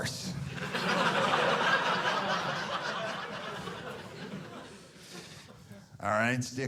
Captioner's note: audience laughing